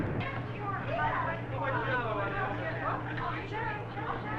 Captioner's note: people chattering